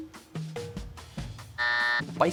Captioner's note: buzzer sounds